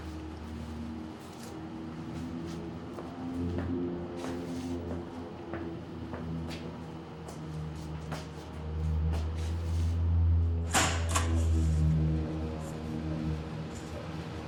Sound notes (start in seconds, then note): 0.1 eerie music; 11.0 time clock punching